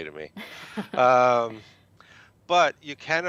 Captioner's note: chuckles